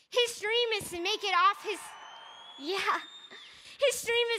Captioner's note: crowd cheering